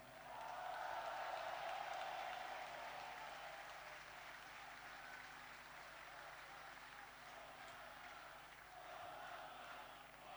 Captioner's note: applause